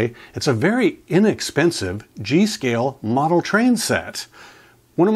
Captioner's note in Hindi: none